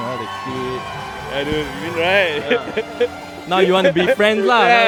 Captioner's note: laughs